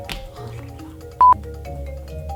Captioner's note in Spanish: bip